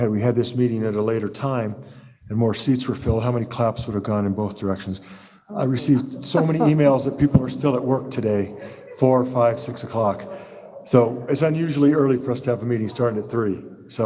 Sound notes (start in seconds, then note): 8.5 laughter